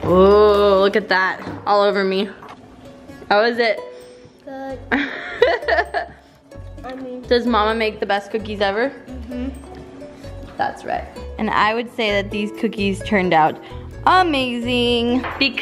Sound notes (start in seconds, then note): 4.9 laughs